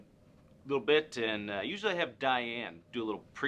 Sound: none

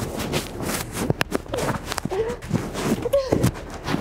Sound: mics scuffling

